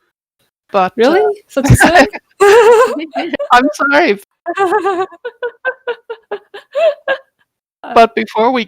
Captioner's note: laughter